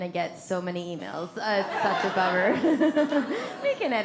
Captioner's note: audience laughs; laughs